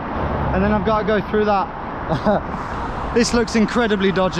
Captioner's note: laughs